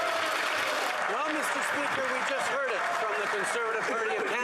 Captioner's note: yelling